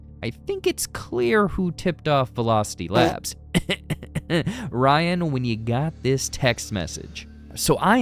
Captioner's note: cough cough